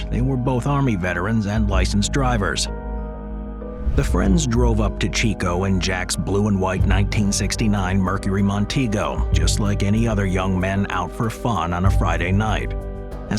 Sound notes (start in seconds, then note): 3.5 gentle music continues; 3.7 transition whooshes